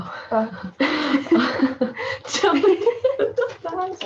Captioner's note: giggling